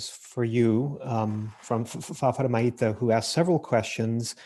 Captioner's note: murmurs